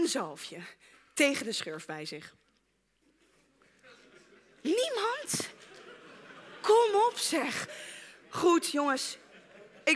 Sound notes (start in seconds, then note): 2.3 awkward silence